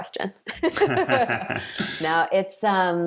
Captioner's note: laughing